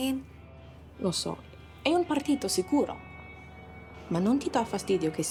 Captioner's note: Moe speaking in Italian